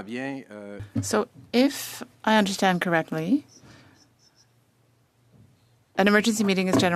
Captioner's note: speaking French